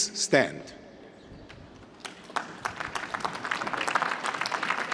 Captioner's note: applause